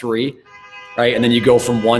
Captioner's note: car honks